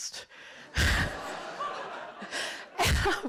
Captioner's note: laughter